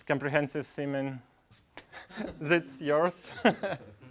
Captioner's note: laugh